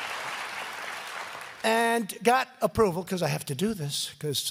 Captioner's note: applause